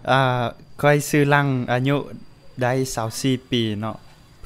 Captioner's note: audio in Laotian